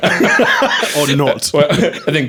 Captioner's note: laughing